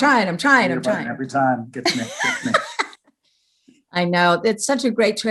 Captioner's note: laughing